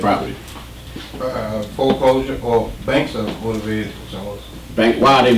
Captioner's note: voiceover